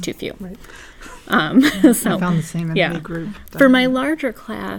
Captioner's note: laugh